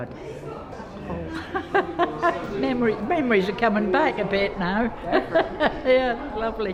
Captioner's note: laughs